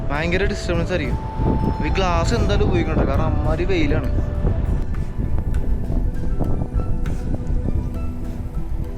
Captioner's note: cow bells